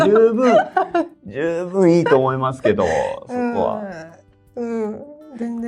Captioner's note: laughs; laughs